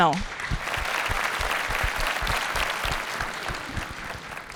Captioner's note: audience applauding